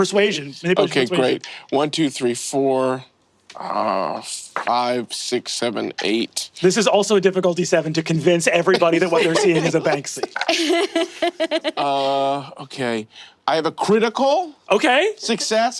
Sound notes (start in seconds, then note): 10.9 laughing